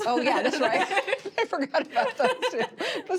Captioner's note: both laugh